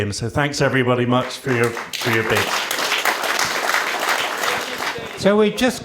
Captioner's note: applause